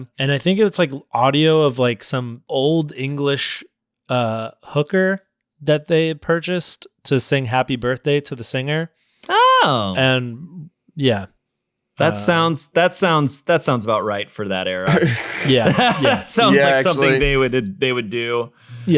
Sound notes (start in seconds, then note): 14.8 laughing loudly